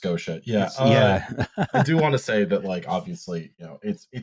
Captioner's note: laughs